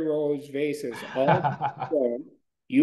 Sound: laughing

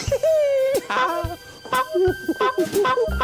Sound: honk! Honk!; honk! Honk! Honk!

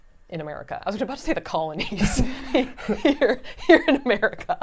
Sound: laughs

